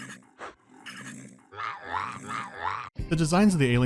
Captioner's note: angry beeboorat yelling